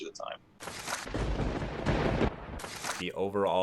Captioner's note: thunder crackles